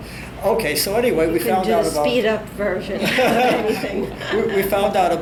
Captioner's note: all laugh